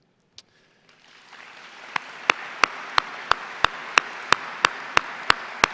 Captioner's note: everyone applauds